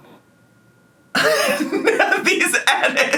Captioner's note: laughs